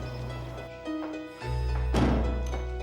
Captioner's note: footsteps approaching; door closes